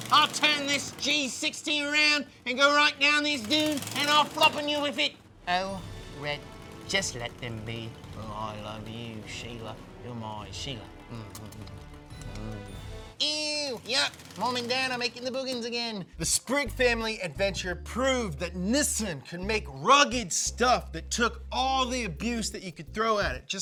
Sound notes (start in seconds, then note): 11.3 kissing